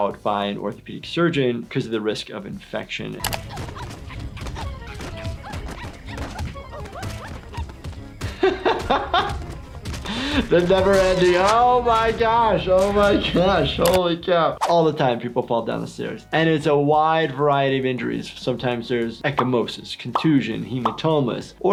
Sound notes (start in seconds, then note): 3.3 Giggles grunting; 8.6 laughs